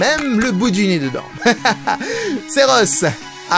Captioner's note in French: rire